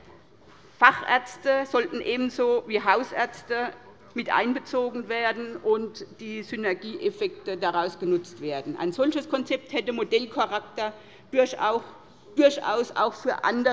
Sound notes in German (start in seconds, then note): none